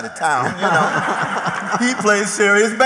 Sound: laughter

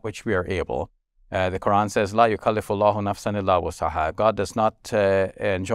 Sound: speaking Arabic

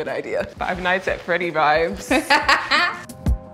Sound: laughing; tranquil ambient music

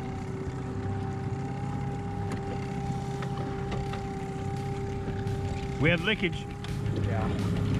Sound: boat engine running

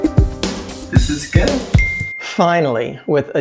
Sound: new demo plays in background; bell

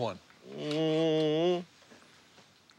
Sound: growls

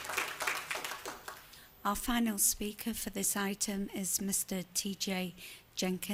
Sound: applause

